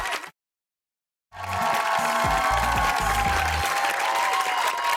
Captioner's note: cheers and applause